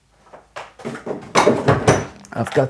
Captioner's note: tools rattling